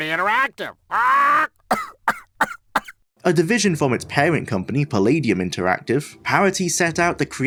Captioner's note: coughing; squak